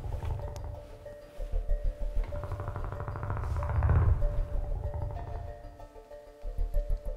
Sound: Geryon's echolocation

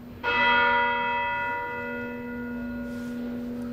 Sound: bell dinging

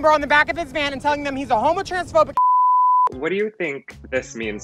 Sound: beeps

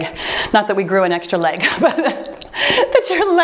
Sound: timer beeps

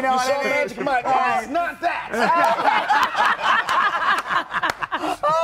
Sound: laughter

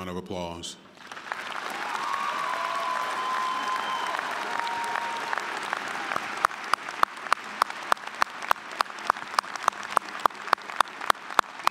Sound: applause, cheering

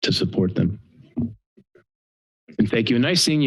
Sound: pause

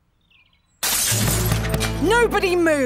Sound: glass shattering

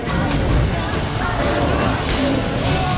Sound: flames crackle

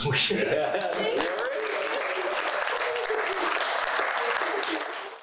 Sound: applause

